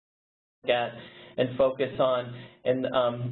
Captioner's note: voiceover